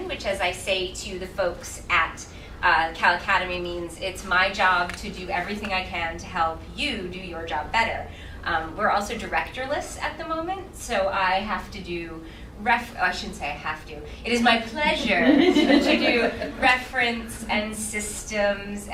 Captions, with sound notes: which is I say to you the folks at Cal Academy means it's my job to do everything I can to help you do your job better. We're also directorless at the moment so I have to do, I should say have to. It is my pleasure (laughing) to do reference and systems